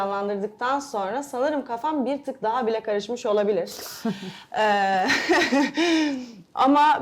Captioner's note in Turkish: kahkaha